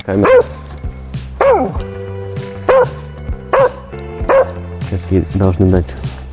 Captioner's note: barking